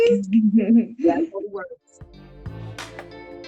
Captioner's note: fingers snapping; upbeat music